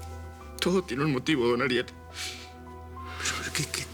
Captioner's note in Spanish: Sollozos